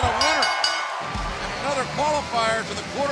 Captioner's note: bell ringing